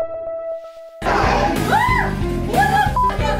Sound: ambient music; growling and woman screaming

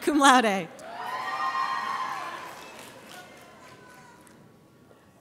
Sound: audience cheers

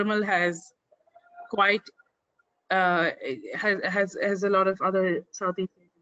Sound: audio static

